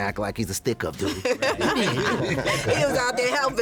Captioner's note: laughter